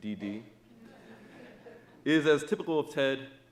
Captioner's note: audience laughing